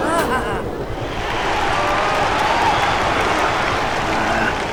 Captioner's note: תשואות